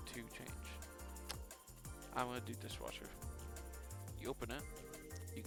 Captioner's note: lipsmack